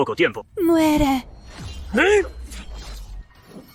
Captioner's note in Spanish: Suspiro